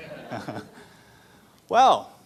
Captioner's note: laughter